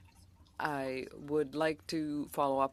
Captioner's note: speaking French